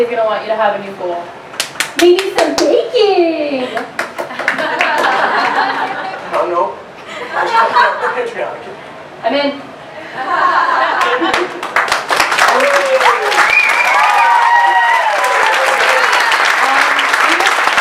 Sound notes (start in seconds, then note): 1.5 playfully; 5.4 laughter from Audience; 10.9 applause from audience